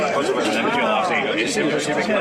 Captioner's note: speaking Spanish